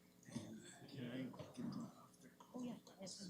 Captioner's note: background chatter